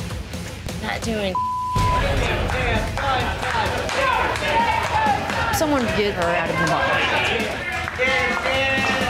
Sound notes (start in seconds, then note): 1.3 beep; 1.8 group chanting